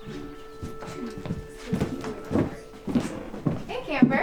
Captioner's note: counselors faintly chattering